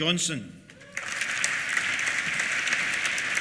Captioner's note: applause